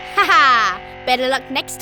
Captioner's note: laughing